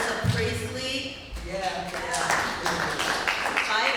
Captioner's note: applause